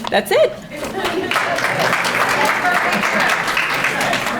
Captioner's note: audience applauding